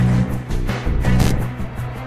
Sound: static noise

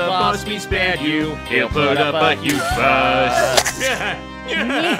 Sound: Moblins laugh; woman grunts, guts splatter

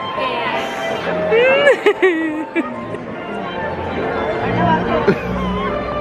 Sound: cackles; giggles and weeps; laughs

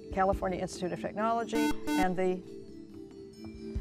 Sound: buzzer

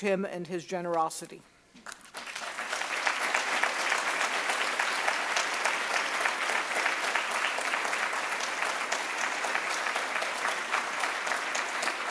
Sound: applause

